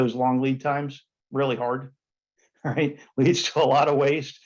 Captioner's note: chuckles